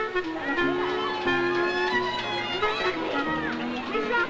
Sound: uptempo cheery music; children giggling

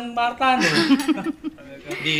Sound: laughter

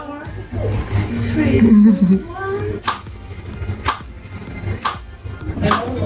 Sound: shutter clicks

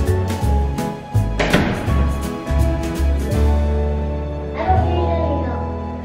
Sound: door closing

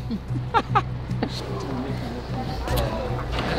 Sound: laughing

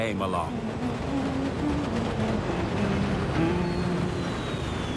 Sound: humming continues

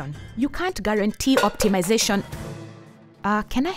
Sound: clattering

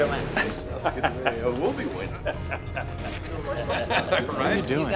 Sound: muffled chatter

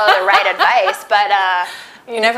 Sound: laughing

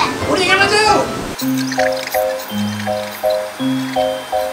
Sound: bell ringing

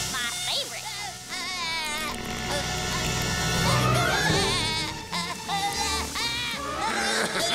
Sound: groaning; laughing

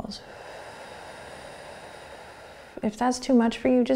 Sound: exhaling

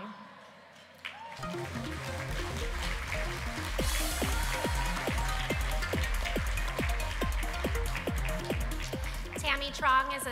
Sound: applause

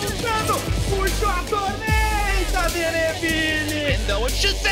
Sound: foreign language

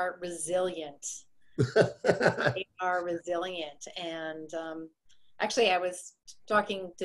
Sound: laughs

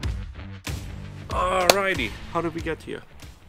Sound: claps

